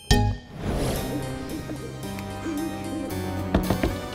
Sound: owl hooting

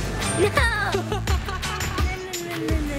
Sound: laughing

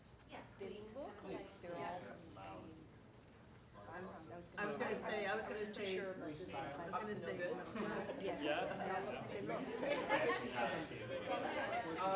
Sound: audience conversation

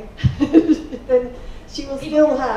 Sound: laughing

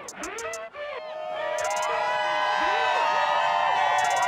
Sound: people cheering

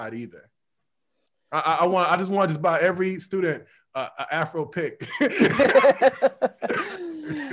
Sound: laughs

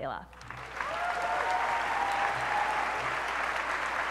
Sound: applause

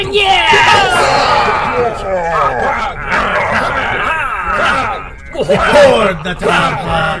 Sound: Klingon cheers

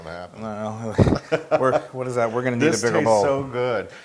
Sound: laugh

